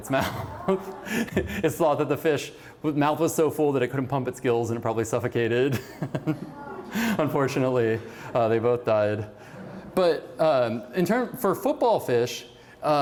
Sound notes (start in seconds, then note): 0.1 laughter; 5.7 laughter